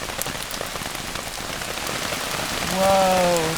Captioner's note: rain